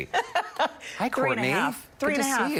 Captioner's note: laughter